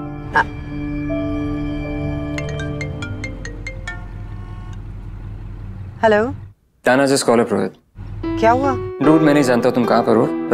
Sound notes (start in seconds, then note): 2.1 phone ringing